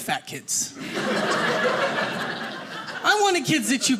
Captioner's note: audience laughing